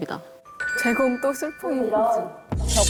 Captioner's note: sound effect of evidence appearing